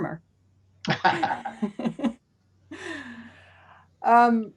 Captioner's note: both laughing